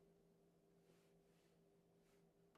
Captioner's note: speaking French